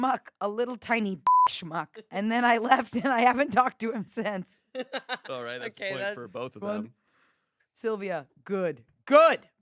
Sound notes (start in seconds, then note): 1.2 beep; 4.7 laugh